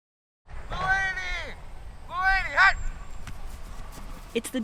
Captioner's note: yells